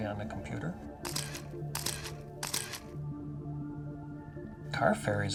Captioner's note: camera clicking photos